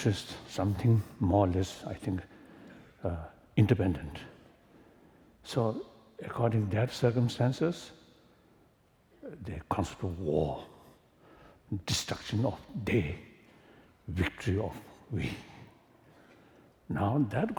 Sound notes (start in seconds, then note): none